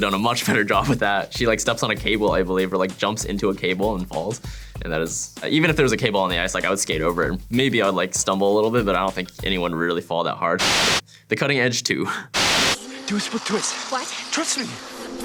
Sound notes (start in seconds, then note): 10.6 white noise; 12.3 white noise